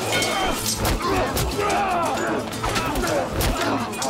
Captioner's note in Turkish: Kılıç sesleri